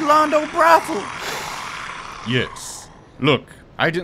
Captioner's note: sniffs